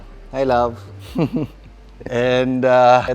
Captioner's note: giggles